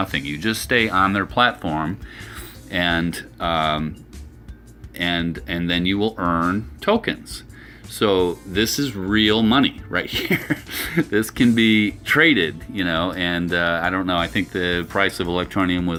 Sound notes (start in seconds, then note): 10.1 laughs